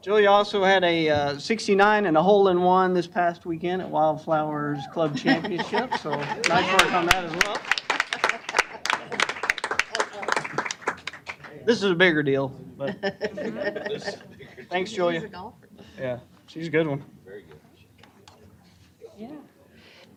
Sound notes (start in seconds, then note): 8.5 applause